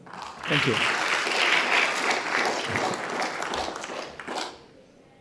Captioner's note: audience applauding